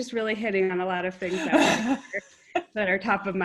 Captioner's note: laugh